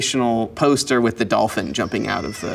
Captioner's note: dolphin squeal